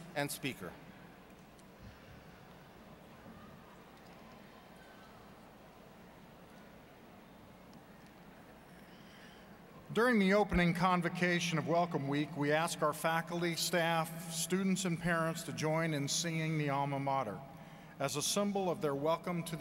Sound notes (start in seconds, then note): none